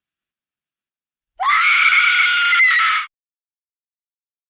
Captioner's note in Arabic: صرخة خارقة